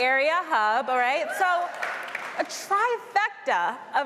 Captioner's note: applause